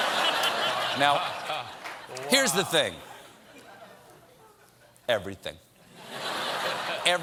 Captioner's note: laughter